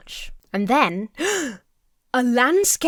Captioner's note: Emma gasps